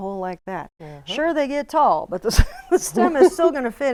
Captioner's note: laughs